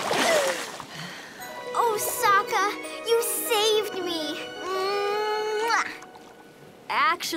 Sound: gasping; kissing

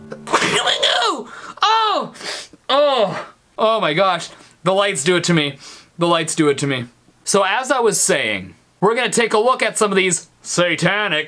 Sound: sneezes

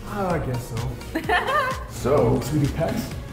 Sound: laugh

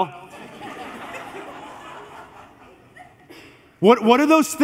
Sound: congregation laughs

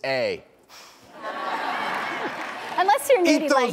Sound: audience laughs

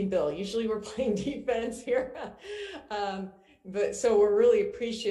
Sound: chuckles

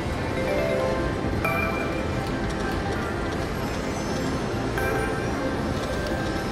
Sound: people talking and slot machines ringing in the background

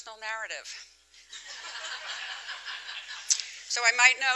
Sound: laughter

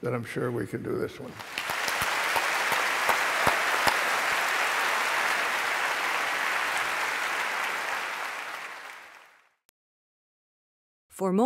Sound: applause

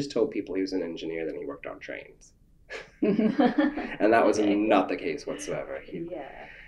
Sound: laughter

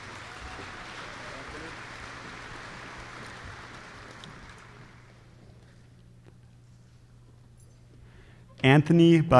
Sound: applause

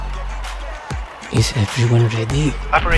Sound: whisper

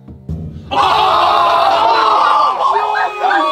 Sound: screaming

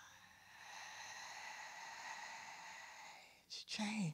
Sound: exhales

